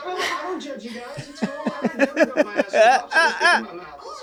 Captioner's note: he laughs